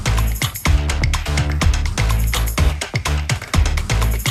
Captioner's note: applause